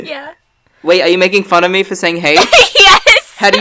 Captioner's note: laughs